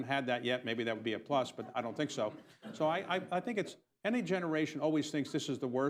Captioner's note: laughter